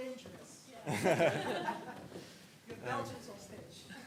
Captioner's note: laughter